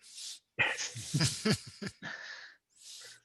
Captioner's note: laughing